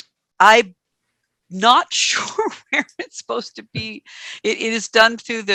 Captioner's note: chuckles